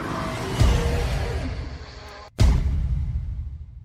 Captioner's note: roar